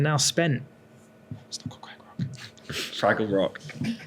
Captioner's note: whispers